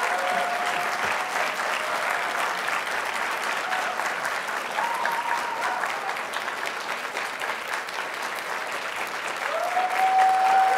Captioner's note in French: applaudissements